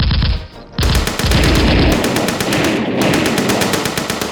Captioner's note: gunfire rattling